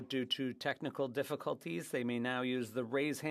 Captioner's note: speaking French